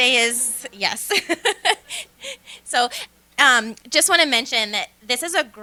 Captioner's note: laughter